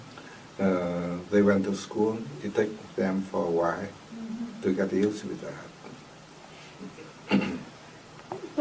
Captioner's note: clears throat